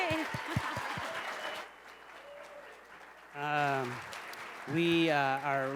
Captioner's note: cheers and applause